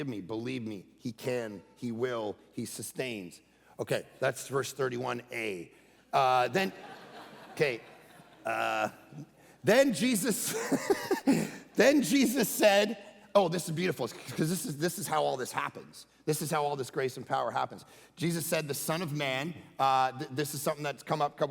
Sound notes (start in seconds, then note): 6.4 congregation laughing; 10.4 laughing